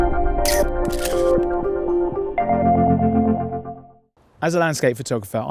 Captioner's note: camera shutter sound